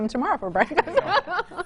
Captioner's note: laughs